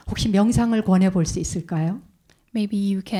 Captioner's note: speaking in Korean